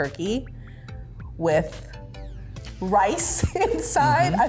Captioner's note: laughs